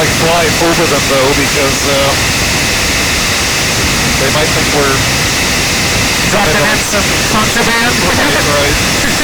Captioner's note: laugh